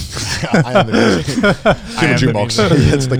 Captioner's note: laughing